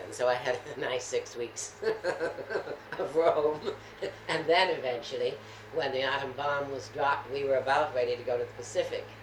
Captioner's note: laughs